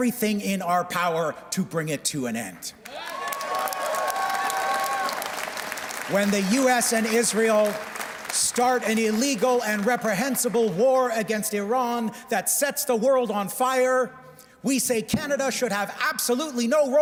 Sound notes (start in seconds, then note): 6.2 cheers and Applause